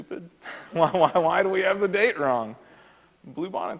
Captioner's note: laughs